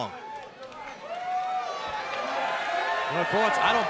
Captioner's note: crowd cheering